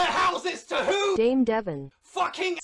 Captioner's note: TTS voice